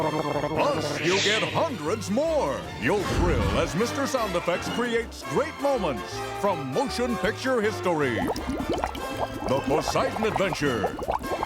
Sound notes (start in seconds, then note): 8.0 bubbling